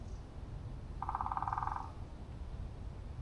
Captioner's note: woodpecker Knocking